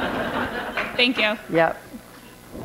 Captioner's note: laughter